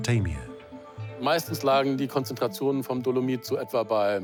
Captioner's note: speaks in foreign language